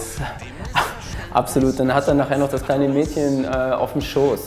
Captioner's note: laughs